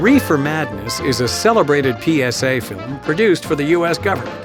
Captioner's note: voiceover